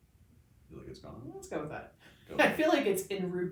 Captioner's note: laughs